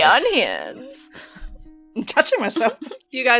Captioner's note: laughing